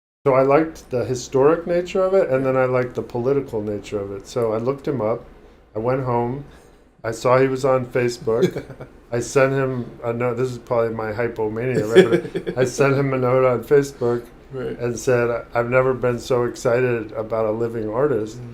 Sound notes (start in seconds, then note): 8.3 chuckling; 11.7 laughing